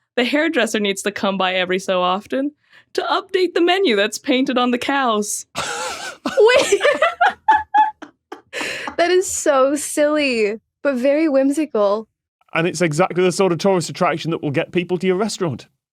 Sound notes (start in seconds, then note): 5.5 group laughing